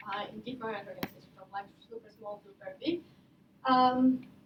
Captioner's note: none